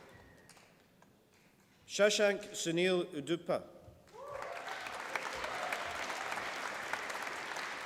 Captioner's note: applause